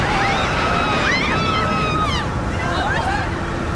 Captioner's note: Жените крещят